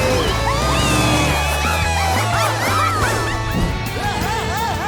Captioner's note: cheering